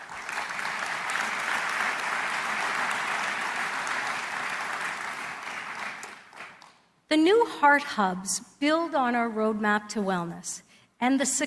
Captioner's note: applause